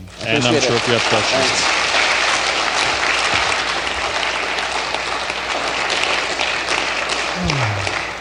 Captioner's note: applause